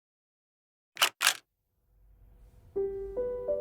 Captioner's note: slide clicks; gentle piano music